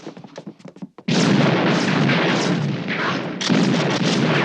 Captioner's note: gunfire